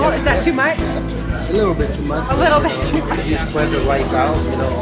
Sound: laughter

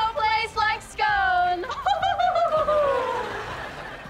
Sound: laughing

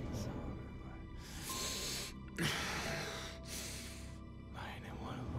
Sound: heavy breathing

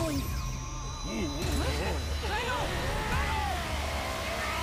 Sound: Drago shouting; roaring

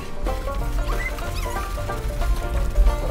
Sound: squeaks; lively banjo music

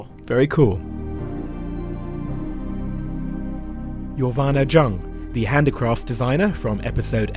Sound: voiceover

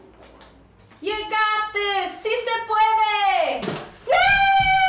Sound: speaking in spanish

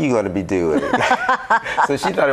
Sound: group laughs

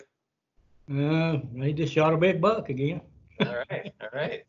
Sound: laughter

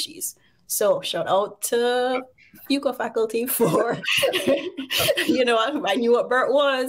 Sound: chuckles

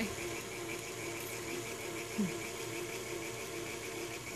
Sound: mixer churning

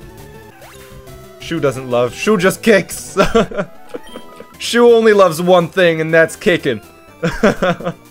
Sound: laughs

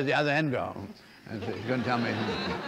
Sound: laughter

